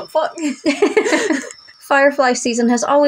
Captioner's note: both Laugh